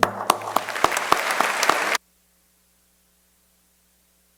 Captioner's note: crowd applauding